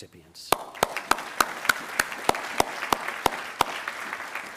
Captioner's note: attendees applauding